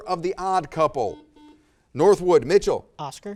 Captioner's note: buzzer